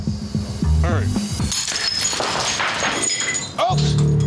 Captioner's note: glass clattering